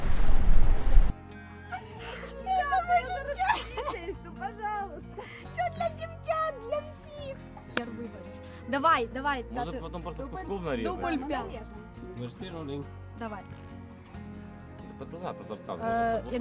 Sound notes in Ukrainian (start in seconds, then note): 1.6 сміх